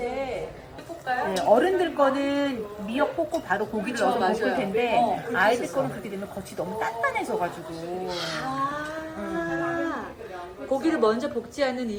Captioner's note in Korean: 아~